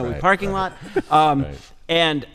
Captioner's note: chuckles